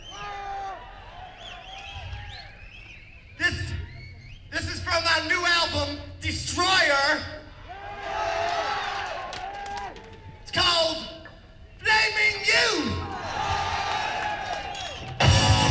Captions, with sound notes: This This is from my new album, Destroyer. [screaming] It's called Blaming You.